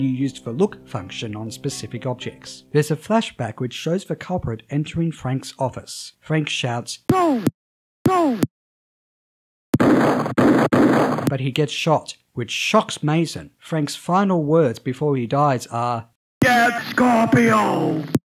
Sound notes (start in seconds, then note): 9.8 gunshot noises